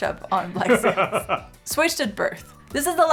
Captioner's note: both laughing